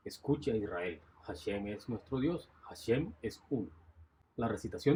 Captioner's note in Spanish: Voz en off